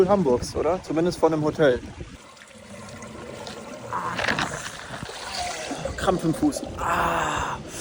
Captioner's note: gasps for air